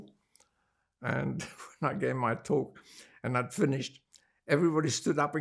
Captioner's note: laughing